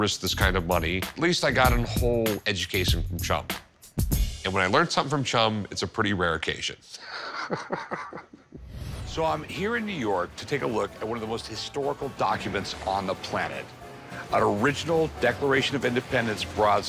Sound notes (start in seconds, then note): 7.0 laughs